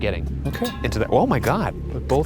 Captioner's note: metal clanking